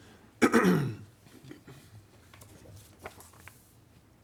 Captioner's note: clears throat